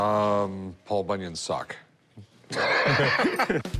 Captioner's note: laughs